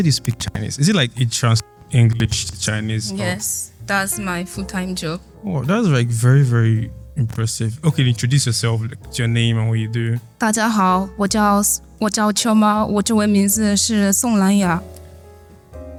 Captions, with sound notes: speak Chinese. Is it like you translate English to Chinese or? Yes. That's my full-time job. Oh, that's, like, very, very impressive. Okay, introduce yourself, like your name and what you do. [speaking mandarin]